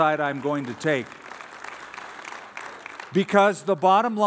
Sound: applause

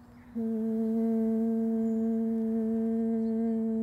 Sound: humming

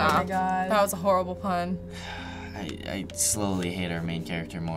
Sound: sighs

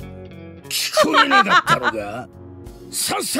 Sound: chuckles

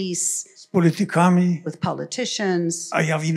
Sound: foreign language

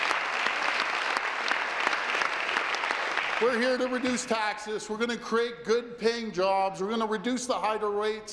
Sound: applause

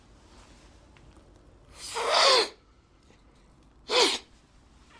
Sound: sniffing heavily

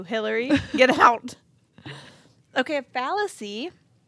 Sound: chuckling

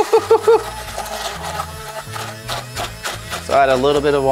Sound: blender whirring

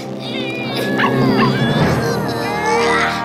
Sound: meowing

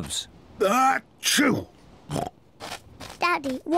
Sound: sneezes

